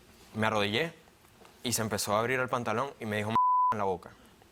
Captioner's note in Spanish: Bip